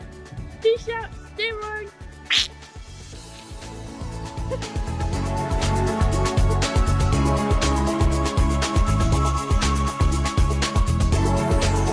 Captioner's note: duck-like noise